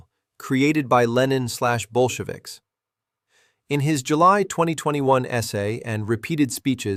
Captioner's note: sarcastic